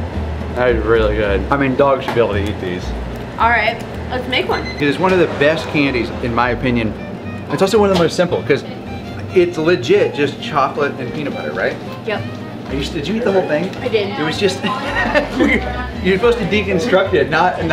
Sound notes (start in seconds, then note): 14.6 laughs heartily